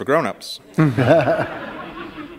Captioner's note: laughter